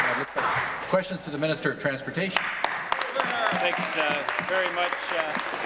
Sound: applause

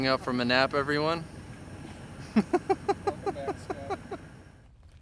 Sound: chuckles

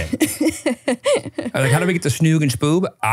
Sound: laughing

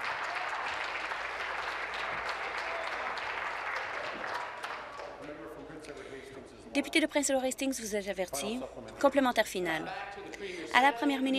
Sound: applause

